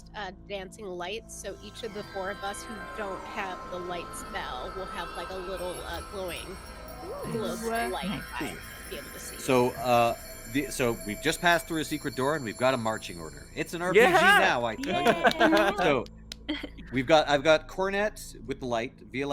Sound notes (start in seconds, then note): 14.0 Hortense laughs; 14.0 laughs